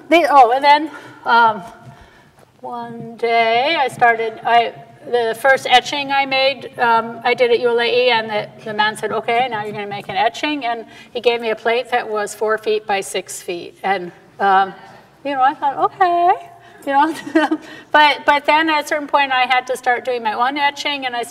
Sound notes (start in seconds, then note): 15.0 hesitantly; 17.1 laughs